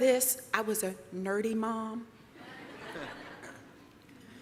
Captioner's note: laughter